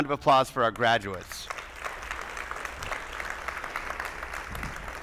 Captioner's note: attendees applauding